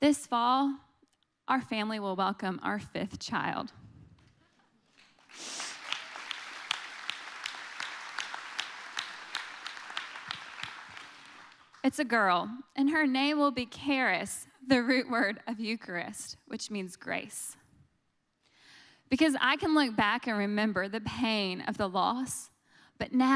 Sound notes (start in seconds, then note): 4.9 audience applauding